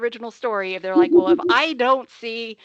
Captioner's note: chuckling